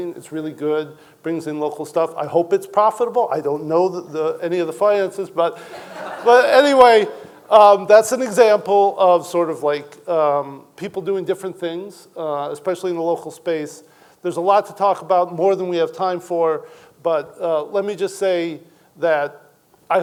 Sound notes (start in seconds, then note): 5.6 audience laughing